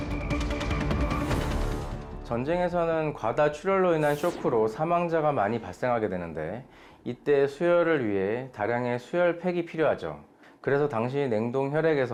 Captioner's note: voiceover